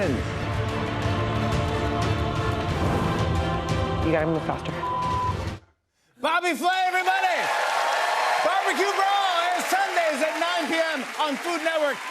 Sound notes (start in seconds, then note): 6.6 cheers and applause